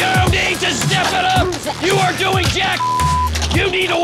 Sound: beep

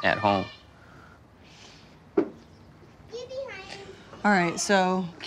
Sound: kids playing

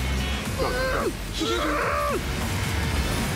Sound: grunts

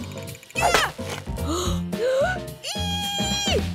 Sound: gasping

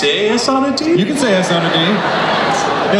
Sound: everyone laughs

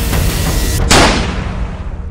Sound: gun shot

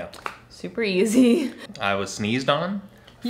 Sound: laughing

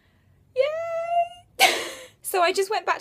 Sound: laughs

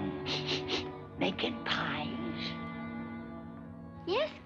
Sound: sniffs

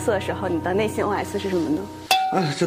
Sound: internal monologue

